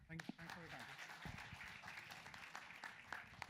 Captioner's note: applause